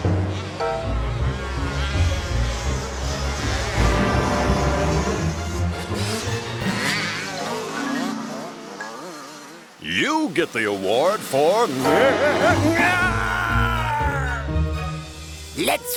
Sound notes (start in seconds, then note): 3.3 bike engines revving; 3.3 roar